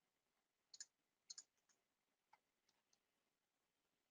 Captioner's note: mouse clicks